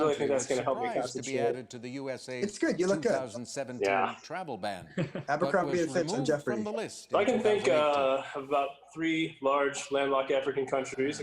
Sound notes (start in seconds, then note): 4.9 chuckles